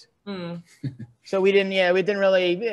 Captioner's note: laughs